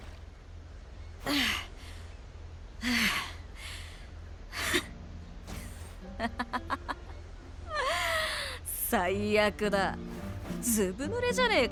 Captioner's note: huff